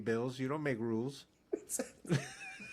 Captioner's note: laughing